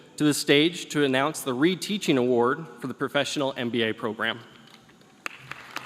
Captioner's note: applause